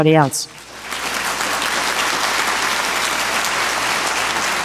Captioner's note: audience applauds